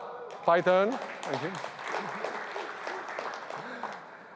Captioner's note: applause